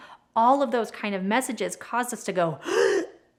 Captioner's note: gasps